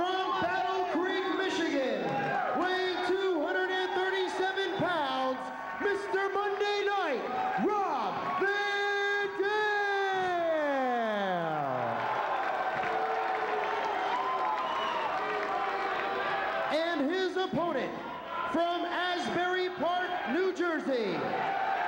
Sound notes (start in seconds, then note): 11.8 hands clapping; 13.1 crowd booing; 21.6 crowd cheering